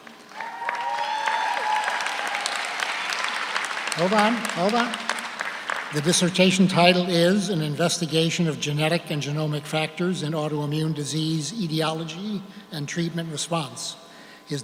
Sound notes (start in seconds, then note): 0.0 audience applauds; 0.0 audience cheers